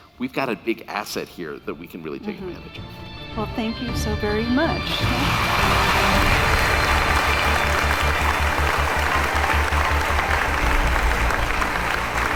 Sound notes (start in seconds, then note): 4.8 audience applauding; 4.9 bright music